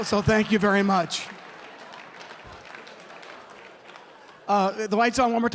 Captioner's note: applause